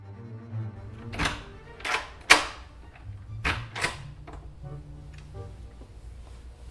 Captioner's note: intense music; door being unlocked, opened